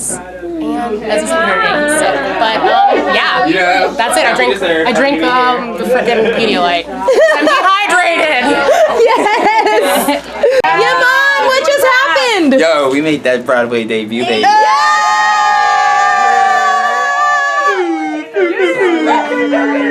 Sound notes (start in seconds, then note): 7.0 laughing; 14.2 group cheering and yelling